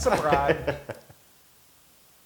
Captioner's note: laugh